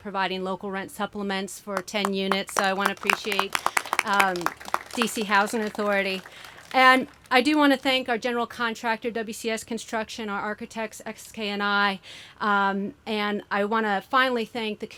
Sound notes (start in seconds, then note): 6.5 applause